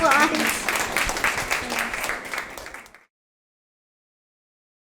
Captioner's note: audience clapping